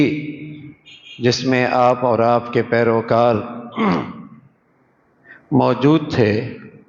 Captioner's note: clears his throat